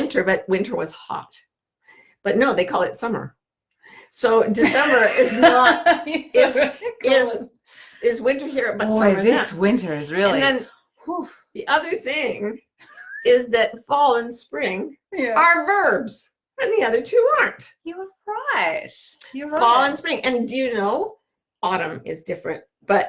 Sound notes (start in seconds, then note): 4.6 laughing; 12.9 laughing